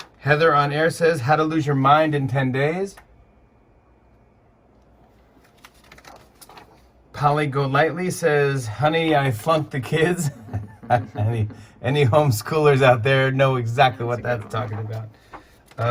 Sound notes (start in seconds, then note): 10.2 light laughter